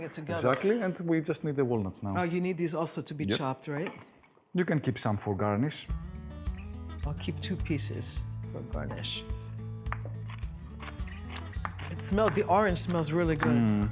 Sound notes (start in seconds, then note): 9.6 chopping